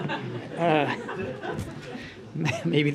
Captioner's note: laughter